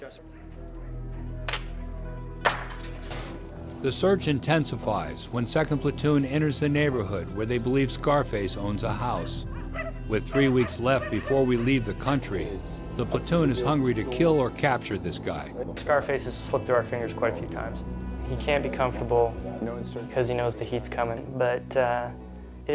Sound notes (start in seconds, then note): 4.0 voiceover